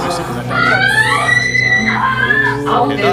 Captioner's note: screaming in pain